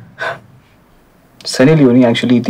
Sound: sighs

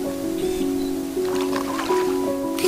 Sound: calm music continues; trees rustling; birds chirping; water splashing

